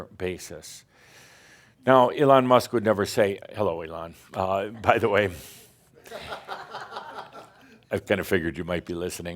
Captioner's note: some chuckles